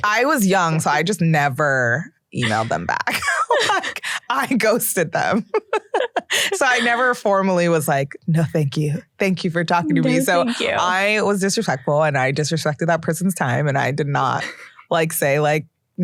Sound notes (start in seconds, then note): 5.4 laughs